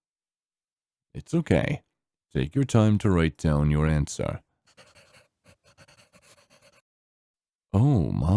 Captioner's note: pencil scribbling